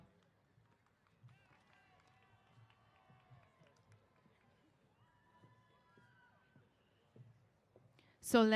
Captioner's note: applause & Cheers